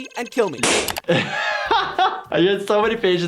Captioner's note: laughing